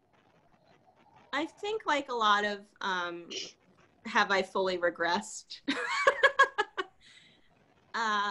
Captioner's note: laughs